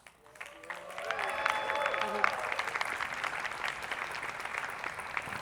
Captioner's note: attendees clapping